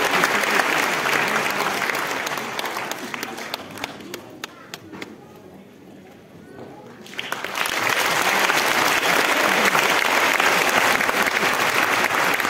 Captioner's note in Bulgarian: аплодисменти